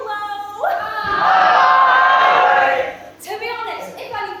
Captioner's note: audience says HIII!